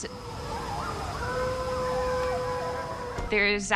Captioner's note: distant howling